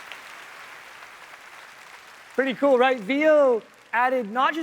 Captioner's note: applause